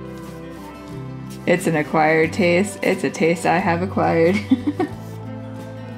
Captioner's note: laugh